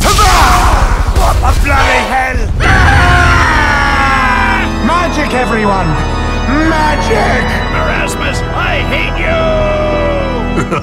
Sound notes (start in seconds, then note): 2.6 screams; 10.5 evil laughter